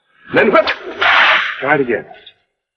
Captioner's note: cracking whip